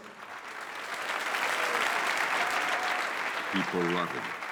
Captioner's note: audience cheers and applauds